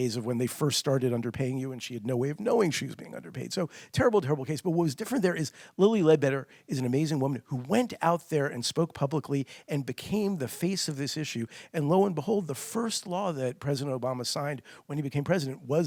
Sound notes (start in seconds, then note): none